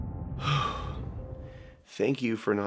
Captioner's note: exhale